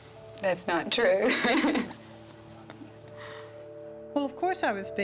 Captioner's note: chuckling